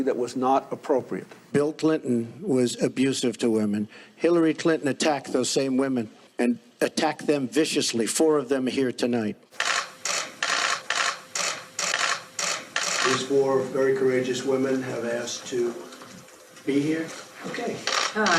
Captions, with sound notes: with Ms. Lewinsky that was not appropriate. - Bill Clinton was abusive to women. Hillary Clinton attacked those same women and attacked them viciously. Four of them here tonight. (camera shutters snapping) These four very courageous women have asked to be here.